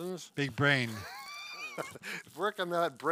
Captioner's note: laughing amusingly